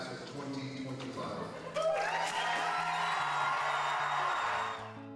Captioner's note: cheering